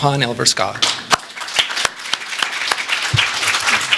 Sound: applause

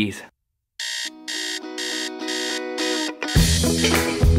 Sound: alarm clock blaring; upbeat music

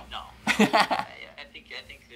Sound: laughing

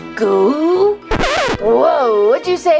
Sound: record scratching

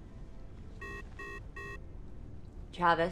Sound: radio beeps

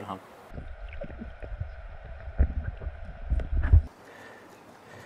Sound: under Water Sound

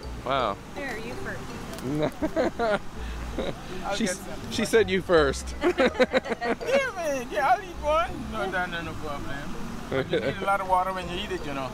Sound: laughing

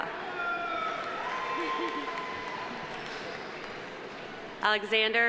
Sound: audience applauding

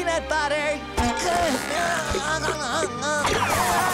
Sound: grunting

